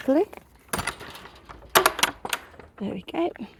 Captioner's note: hinge creeking; latch clanking